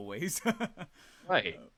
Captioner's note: laughing